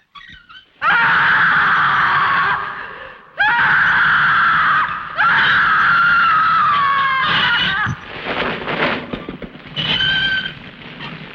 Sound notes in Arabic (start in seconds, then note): 0.8 إلسا تصرخ